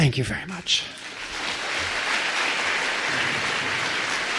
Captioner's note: applause